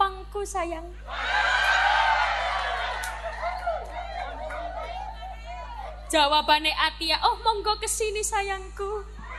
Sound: applause

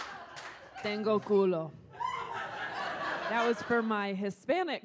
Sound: speaks in foreign language

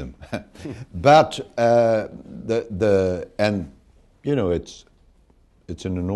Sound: laughter

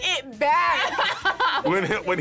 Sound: laughs

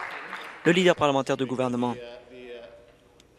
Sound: applause

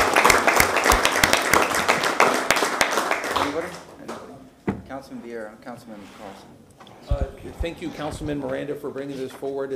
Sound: applause

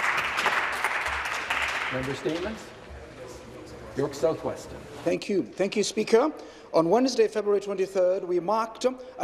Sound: applause

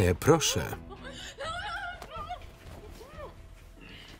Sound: yelling

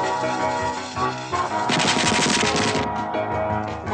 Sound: popcorn explodes

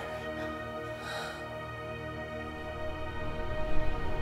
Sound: Sarah sighs

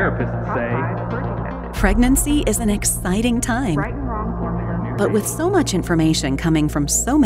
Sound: voiceover

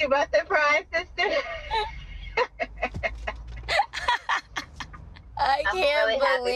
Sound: laughs; laughing

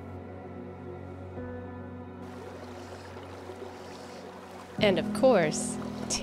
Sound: water whirling

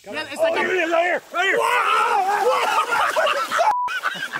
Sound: yelling

